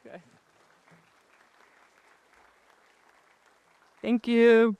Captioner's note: applause